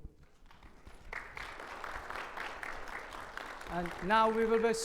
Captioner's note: audience applaud